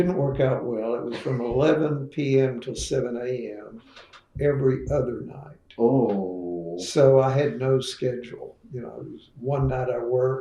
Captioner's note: laughter